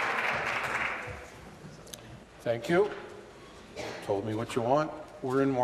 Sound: applause

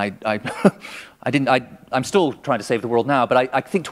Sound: chuckle

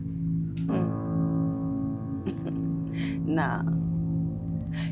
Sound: chuckles

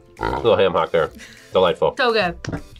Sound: laughs

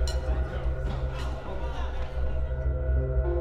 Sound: people are chatting

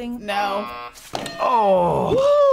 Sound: buzzer rings; bell rings

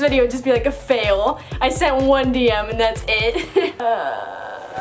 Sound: laughing

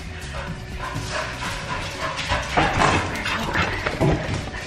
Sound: panting approaches

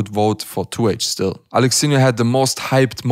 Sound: none

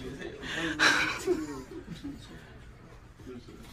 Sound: sighing

